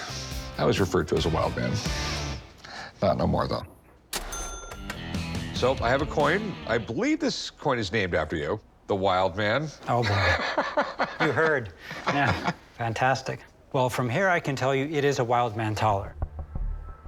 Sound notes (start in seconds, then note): 9.9 laughs